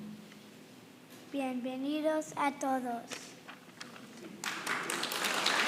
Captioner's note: boy speaking in foreign language; crowd clapping